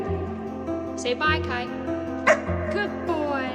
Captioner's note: barking